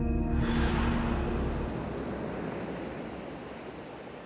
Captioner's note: waves crashing